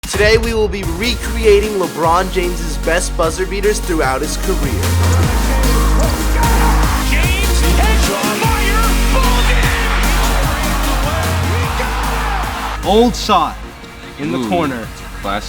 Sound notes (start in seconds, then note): 4.9 upbeat pop music; 6.4 crowd cheers; 10.3 crowd cheers